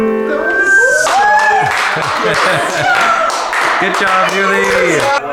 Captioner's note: clapping